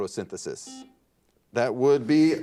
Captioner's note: buzzer dings